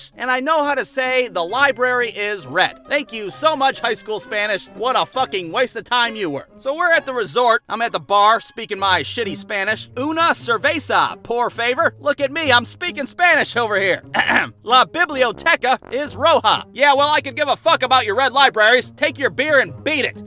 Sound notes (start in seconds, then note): 14.1 ahem